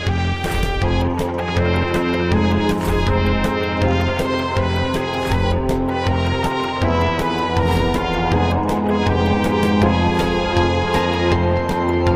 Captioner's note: machine howls